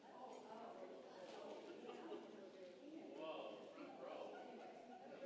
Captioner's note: congregation chattering